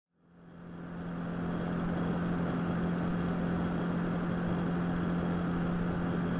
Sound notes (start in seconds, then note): 2.2 motorcycle engine noise